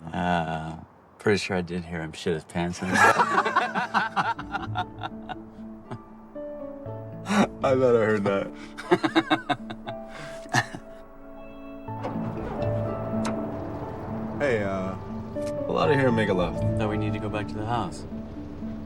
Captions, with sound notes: - Ah, pretty sure I did hear him shit his pants. (both laughing) (bright music) - I thought I heard that. (Dayne laughing) (engine rumbling) - Hey, ah, pull outta here and make a left. - No, we need to go back to the house.